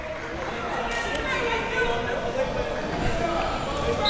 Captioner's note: crowd yelling